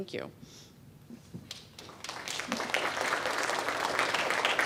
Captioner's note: audience claps